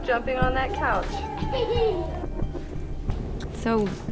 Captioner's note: Glynis giggles